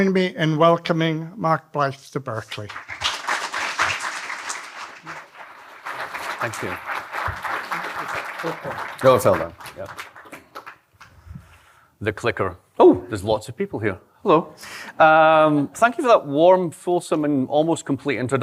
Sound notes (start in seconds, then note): 2.5 applause